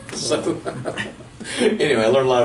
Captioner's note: laughing